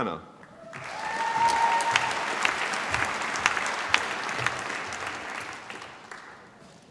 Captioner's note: applause